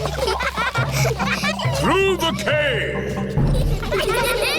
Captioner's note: echoing